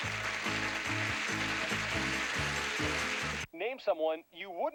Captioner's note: audience applauding